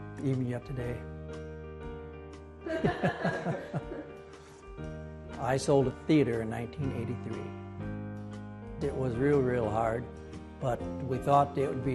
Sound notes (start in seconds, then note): 2.7 laughing